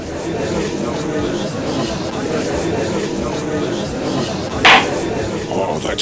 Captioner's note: gallery chattering; gavel slams!